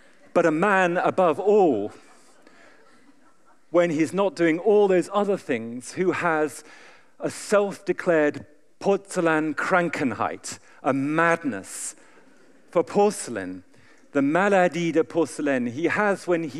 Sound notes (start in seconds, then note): 10.2 german; 14.7 french